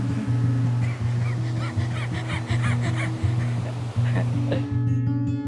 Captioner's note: laughing